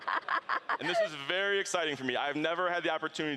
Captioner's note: laughing